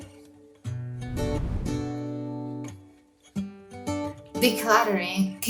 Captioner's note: air whooshing